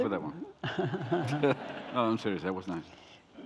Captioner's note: deep throat chuckling